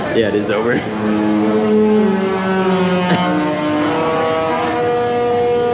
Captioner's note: ship horn honking